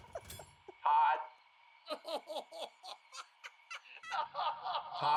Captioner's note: laughs